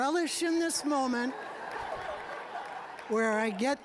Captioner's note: audience laughing